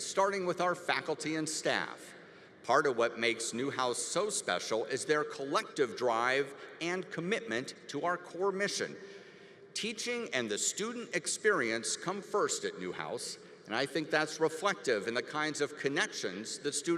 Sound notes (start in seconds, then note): none